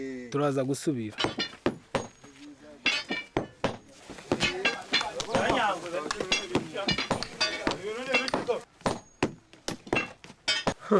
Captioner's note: Coup de marteau